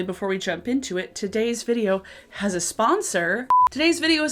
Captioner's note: beeps